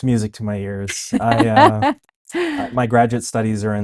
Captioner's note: laughs